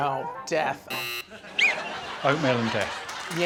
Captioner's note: buzzer; whistle blowing